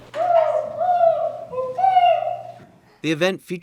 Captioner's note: turkey locator calling sound